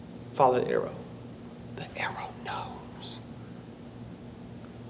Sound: none

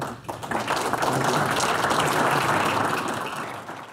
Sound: audience applause

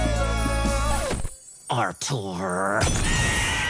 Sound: groaning

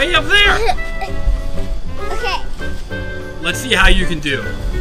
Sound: laughs

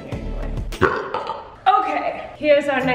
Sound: burps

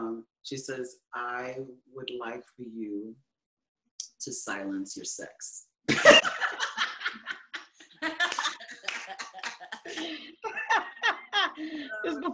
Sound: laughing

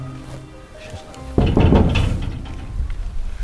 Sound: knocking

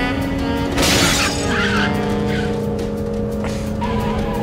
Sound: car crashing

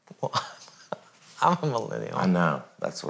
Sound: laughs

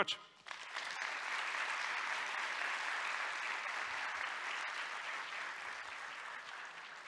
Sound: applause

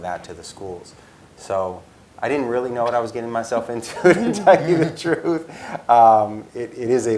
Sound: laugh

